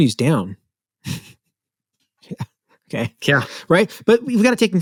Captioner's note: laughs